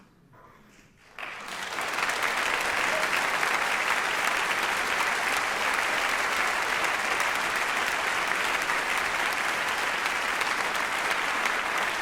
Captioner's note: applause